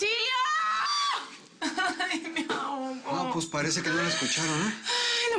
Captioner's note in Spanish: Llorando